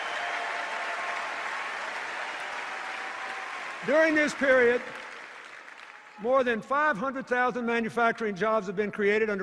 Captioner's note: laughter, cheers and applause; cheers and applause